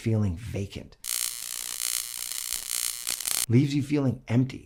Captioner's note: lights buzzing